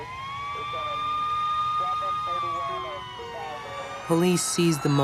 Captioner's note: siren wails